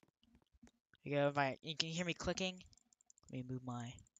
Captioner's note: clicking rapidly